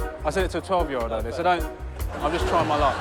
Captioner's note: laughter